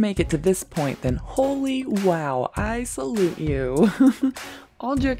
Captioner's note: laugh